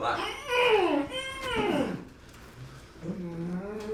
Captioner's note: Dante moaning